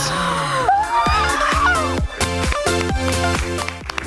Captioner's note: contestants gasp